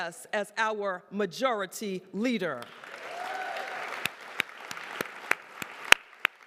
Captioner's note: applause